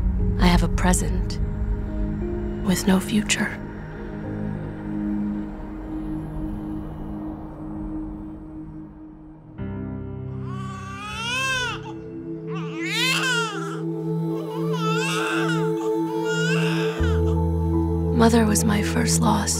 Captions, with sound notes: I have a present with no future. I. SOWDO GIVES BIRTH TO A GIRL [baby crying] Mother was my first loss.